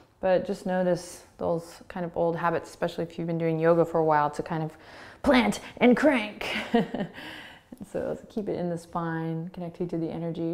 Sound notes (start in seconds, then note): 6.5 laughing